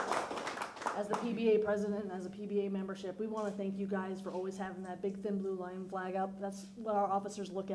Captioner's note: applause